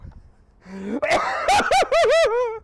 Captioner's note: coughing